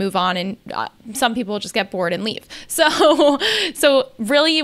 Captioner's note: laughs